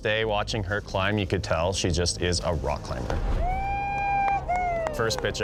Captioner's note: crowd cheering